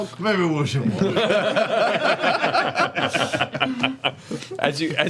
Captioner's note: laughter